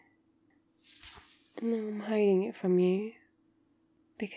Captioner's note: swoosh